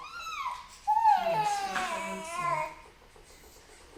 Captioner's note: baby cries